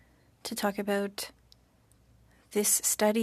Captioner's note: speaking French